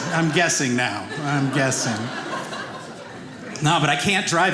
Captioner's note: audience laughing